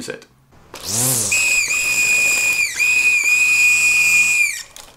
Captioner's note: weed whacker screeching